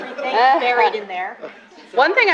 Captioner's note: laughter